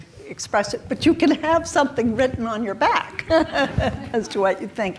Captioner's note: chuckles